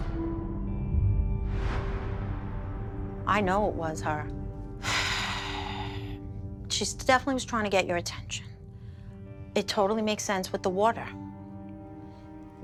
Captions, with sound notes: I know it was her. [sighs] She definitely was trying to get your attention. It totally makes sense with the water.